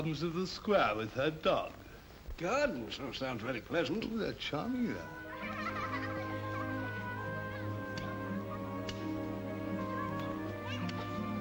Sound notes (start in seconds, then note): 4.6 soft music; 5.0 children's laughter; 8.2 soft music